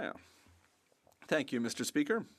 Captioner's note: speaking French